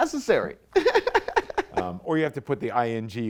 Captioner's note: light chuckle